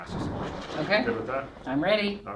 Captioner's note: lightning cracks